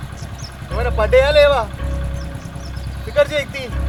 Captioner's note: motorbike leaves